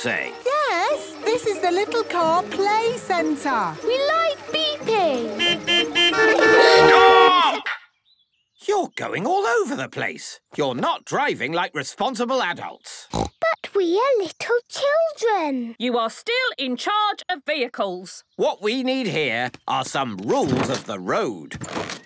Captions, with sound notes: - Yes. This is the Little Car Play Centre. - We like beeping. (horns beeping) - Stop!!! You're going all over the place. You're not driving like responsible adults. (snorting) - But we are little children. - You are still in charge of vehicles. - What we need here are some rules of the road.